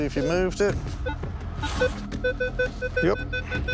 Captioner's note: beeping